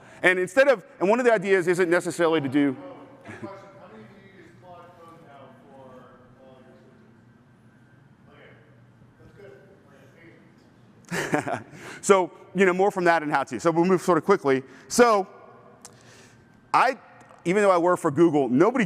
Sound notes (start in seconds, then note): 11.0 laughs